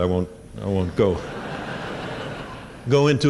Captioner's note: laughter